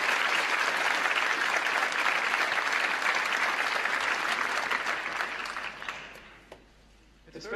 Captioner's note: applause